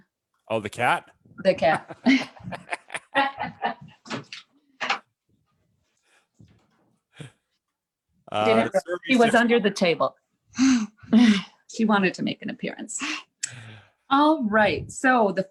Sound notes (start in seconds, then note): 1.5 laughter